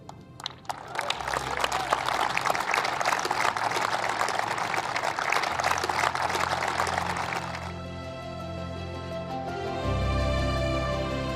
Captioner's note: applause